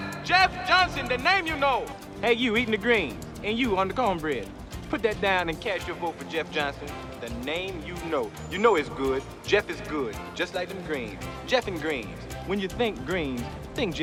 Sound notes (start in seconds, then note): 3.4 homeboy Accent